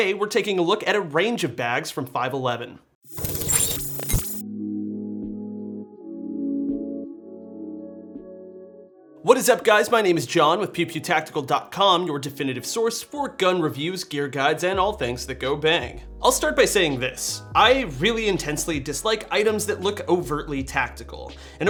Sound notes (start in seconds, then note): 3.1 glitching sound; 4.4 gentle techno music